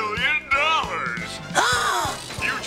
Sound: gasps

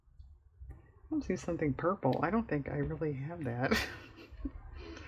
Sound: laughs

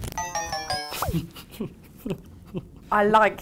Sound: laughs

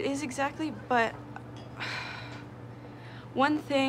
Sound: Greta sighs

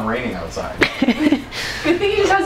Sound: laughs

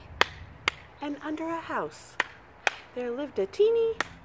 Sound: clap clap; clap clap

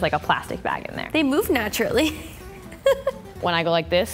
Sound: laughs

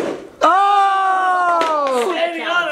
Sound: cheering

